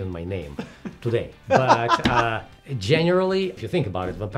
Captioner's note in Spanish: se ríe